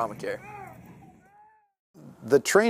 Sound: yelling

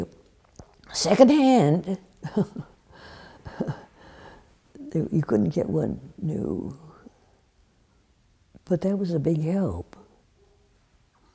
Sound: laughs

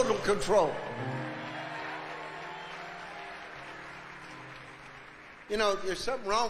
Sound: congregation cheering

